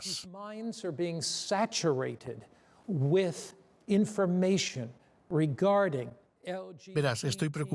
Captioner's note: Hablando idioma extranjero